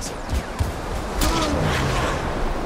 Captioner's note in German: Ächzen; Rauschen